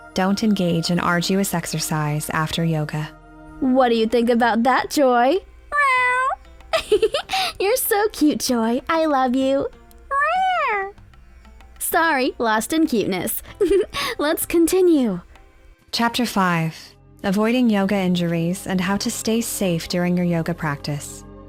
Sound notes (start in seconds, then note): 5.7 Joy meows; 6.7 chuckles; 10.0 Joy meows; 13.4 chuckles